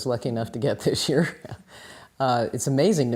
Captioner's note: laughs